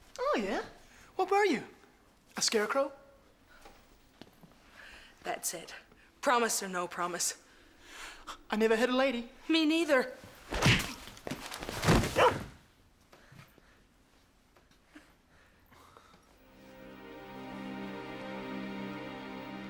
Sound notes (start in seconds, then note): 10.5 punch thuds; 16.4 soft music